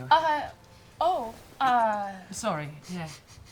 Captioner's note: stutters